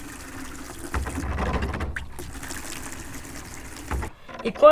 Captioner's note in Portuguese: água enchendo o balde